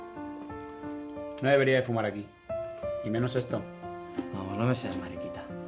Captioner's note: lighter clicking